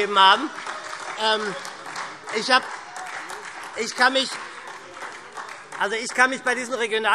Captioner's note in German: Beifall und vereinzelte Heiterkeit SPD